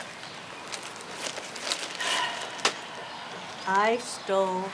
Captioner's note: paper crackling